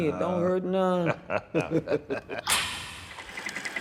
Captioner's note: laughter